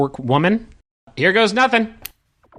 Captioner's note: click; pulsing laser noise